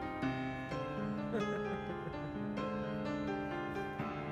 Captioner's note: worker chuckles